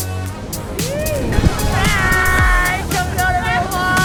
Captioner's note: men whooping